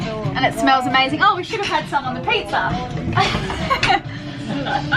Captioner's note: laughs